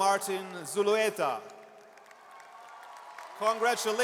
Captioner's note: audience cheers and applauds